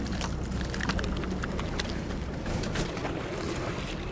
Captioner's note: fish splashes; fish flops; fish splashes